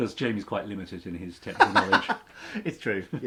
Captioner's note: laughs